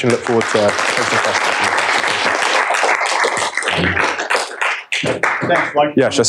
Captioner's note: applause